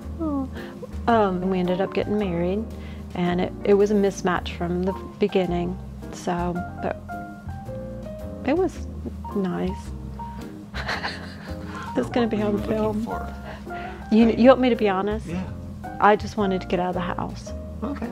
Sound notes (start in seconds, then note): 7.7 hesitantly; 10.7 laughing